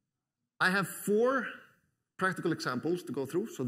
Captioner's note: none